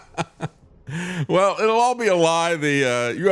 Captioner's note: laughs